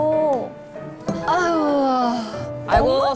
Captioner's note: groaning noises